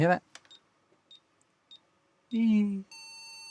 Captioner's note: beeping